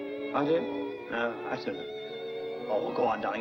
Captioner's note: mumbles into phone